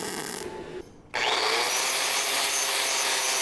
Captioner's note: drilling